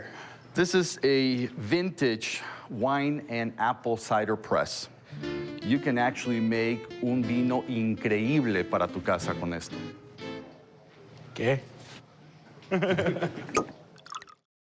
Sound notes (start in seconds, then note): 6.9 speaking italian; 12.6 laughter